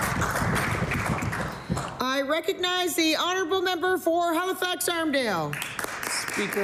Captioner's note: applause